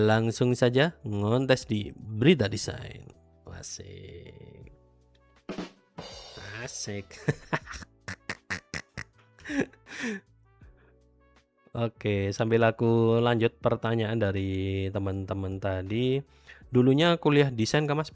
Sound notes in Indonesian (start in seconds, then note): 8.0 tertawa; 9.4 terkesiap